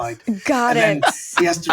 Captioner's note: laughing